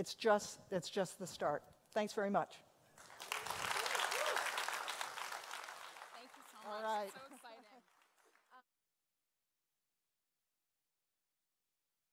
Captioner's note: applause